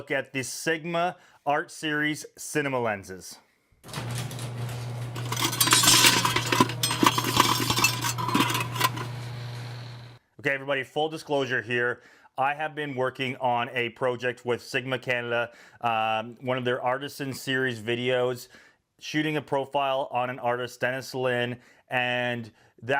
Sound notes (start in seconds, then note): 3.8 garage door creaking; 5.9 tools clanking